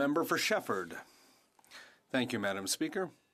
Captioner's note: speaking french